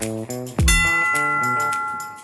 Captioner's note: ringing